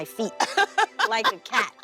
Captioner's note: laughing